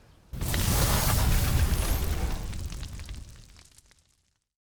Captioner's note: heat sound